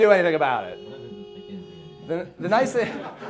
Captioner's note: murmuring